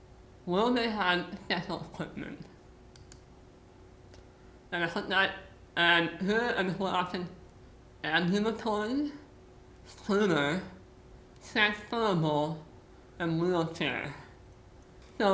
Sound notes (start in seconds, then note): none